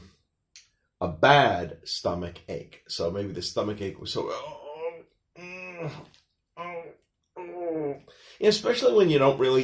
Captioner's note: sounds of pain